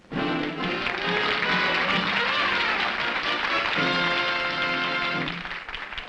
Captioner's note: upbeat music; applause